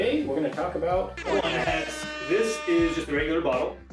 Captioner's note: air horn blasting